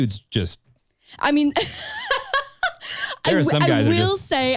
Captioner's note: laughs